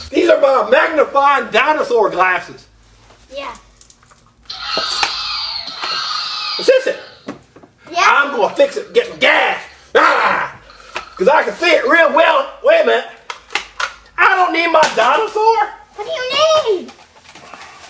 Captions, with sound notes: These are my magnifying dinosaur glasses. - Yeah. (dinosaur screeches) - Assistant! - Yeah? - I'm gonna fix it, gettin' gas. (roars) 'Cause I can see it real well. Wait a minute. I don't need my dinosaur. - What do you need?